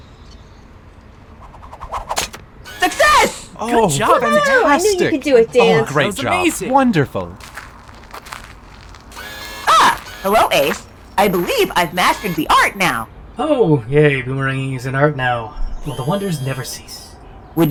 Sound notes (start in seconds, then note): 3.6 everyone cheering